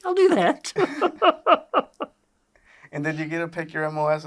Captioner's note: both laughing